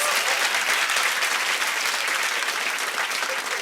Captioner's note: applause